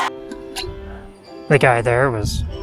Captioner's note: fanfare, applause, cheering!